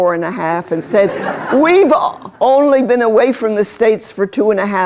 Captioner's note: laughter